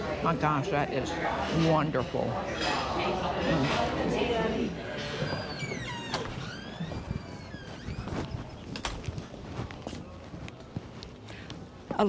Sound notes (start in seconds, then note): 3.4 patrons chattering; 5.0 door closing; 8.2 footsteps thudding